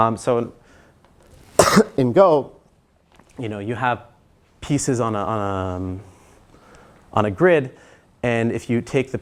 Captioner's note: cough